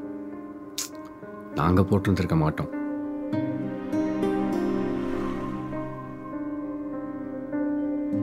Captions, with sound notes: [ Clicks tongue ] We wouldn't have!